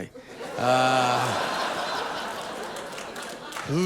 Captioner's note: audience laughing